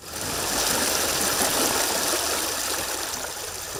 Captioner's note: water rushing